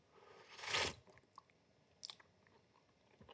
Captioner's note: slurping